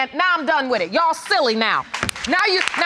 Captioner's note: audience applauds